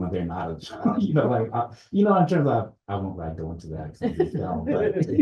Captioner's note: chuckles